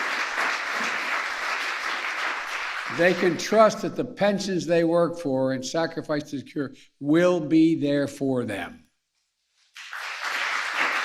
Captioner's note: applause